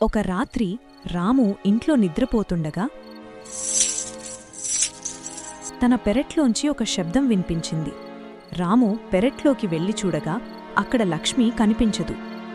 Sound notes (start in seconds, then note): 3.4 chain-Rattling Sound In a Distance